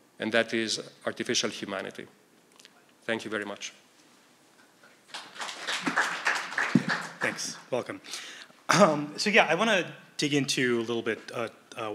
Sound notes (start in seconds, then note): 5.1 applause